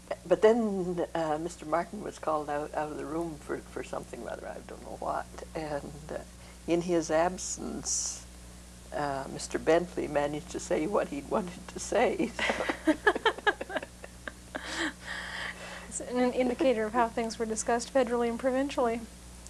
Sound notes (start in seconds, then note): 12.3 laughter